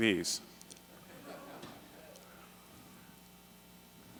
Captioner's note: laughter